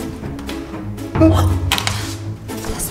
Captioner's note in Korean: 놀란 탄성; 둥, 효과음